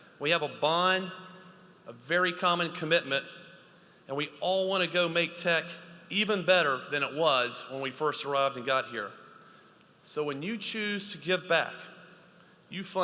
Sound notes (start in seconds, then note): none